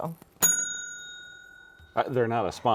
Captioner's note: bell dings